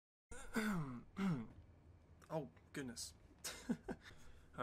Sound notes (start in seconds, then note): 0.3 clears throat; 3.4 laughs